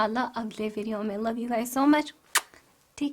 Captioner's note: blows a kiss